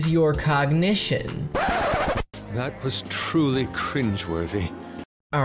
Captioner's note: record Scratch